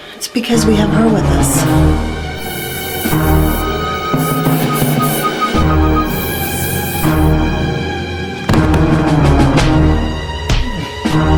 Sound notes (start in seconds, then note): 8.4 loud thud